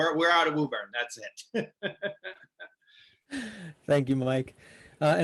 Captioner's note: laughs